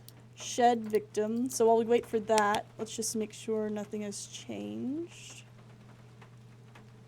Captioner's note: flashlight Clicks On